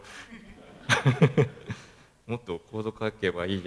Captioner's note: laugh